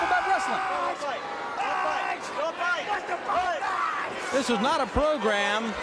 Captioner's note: crowd chatter